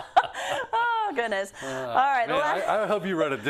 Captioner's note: laugh